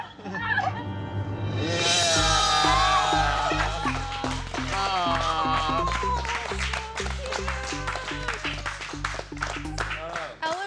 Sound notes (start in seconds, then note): 1.7 cheering; 6.7 indistinct chatter